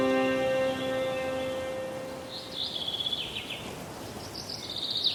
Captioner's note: birds chirping